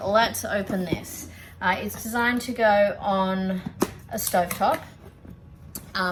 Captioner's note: scissors snip packaging